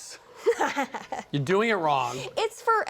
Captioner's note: laughs